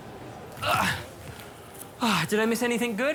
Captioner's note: groans, sighs